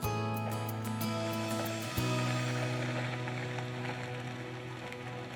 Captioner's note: tires driving on ice